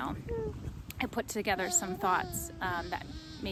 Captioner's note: cooing